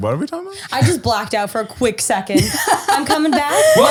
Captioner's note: laughter